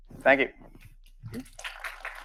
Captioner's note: audience applauding